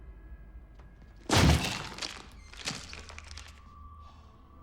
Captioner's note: wood cracking; door thuds